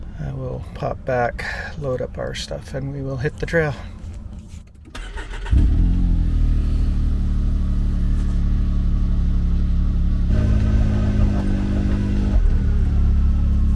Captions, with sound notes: I will pop back, load up our stuff and we will hit the trail. [engine starts]